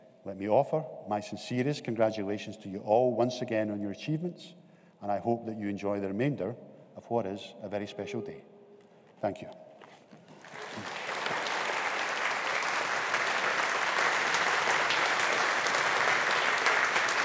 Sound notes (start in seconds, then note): 10.2 audience applauding